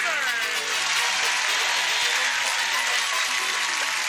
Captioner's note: cheering